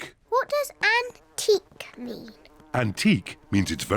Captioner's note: none